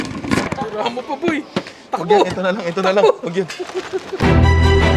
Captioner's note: chuckles